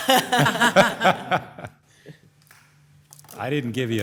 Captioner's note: commissioners laugh